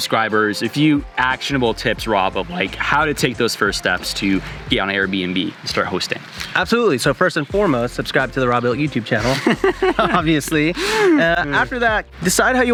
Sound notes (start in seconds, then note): 9.1 laughing